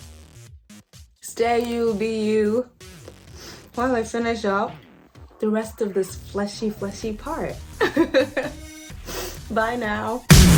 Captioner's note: laughs